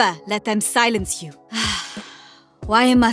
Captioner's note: sigh